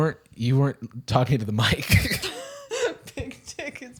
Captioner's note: laughter